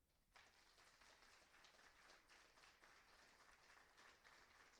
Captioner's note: applauding